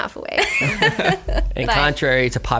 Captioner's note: laughter